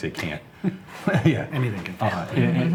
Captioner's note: laughs